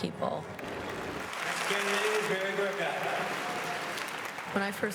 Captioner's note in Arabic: الجمهور يصفق